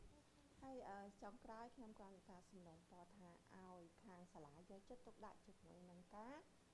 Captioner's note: speaking in foreign language